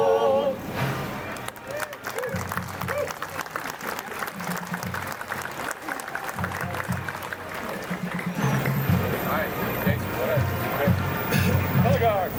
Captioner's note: applause